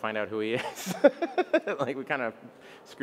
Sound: Bill laughs

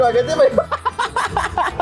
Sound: laughs

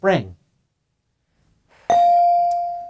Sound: bell dings

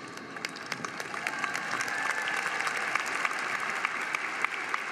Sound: crowd applauding

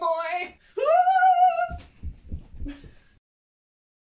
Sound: screaming

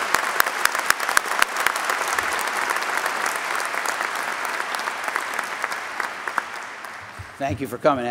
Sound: applause

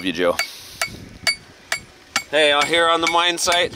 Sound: metal banging

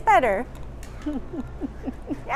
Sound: chuckle

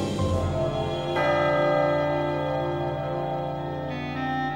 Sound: clock strikes

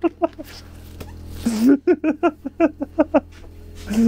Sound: laughing

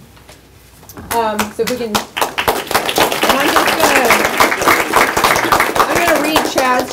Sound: applause

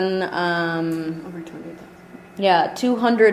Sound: voiceover

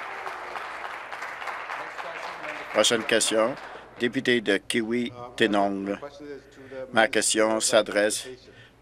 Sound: applause

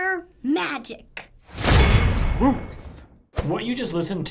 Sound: clang!

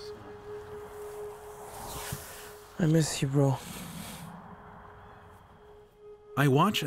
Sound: sniffling

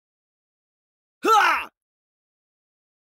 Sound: sound of pain

